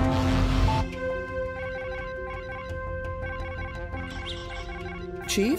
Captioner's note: communicator alert